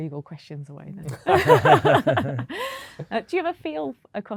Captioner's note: laughter